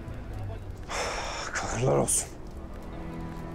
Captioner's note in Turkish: İç çekiyor